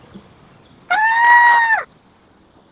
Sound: high-pitched scream

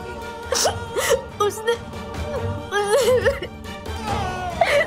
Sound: crying

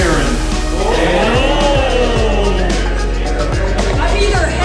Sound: crowd cheering

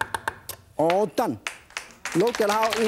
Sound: applause

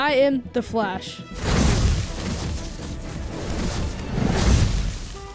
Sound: electricity sounds; city traffic noises

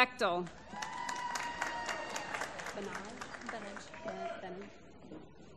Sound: applause

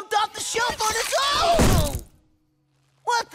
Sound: thudding

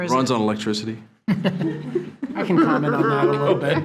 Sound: trustees laughing

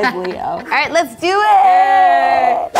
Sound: all laughing

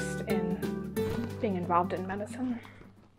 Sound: exhales

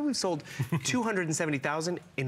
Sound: laughter

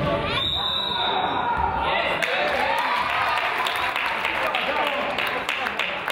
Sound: whistle blows; crowd applauds

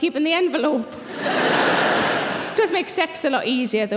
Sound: audience laughing

